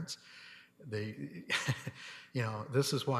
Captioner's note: laughing